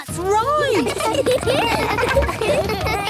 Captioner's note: laughter